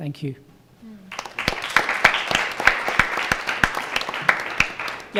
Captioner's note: applauding